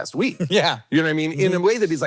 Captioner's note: laughs